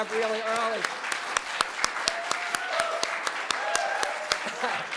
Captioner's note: applause